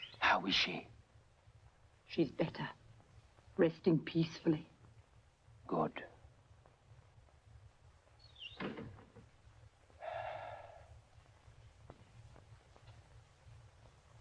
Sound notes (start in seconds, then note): 10.0 exhales